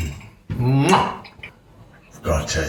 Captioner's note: kisses air